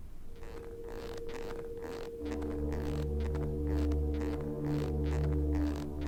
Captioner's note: shoes squeaking; eerie dramatic music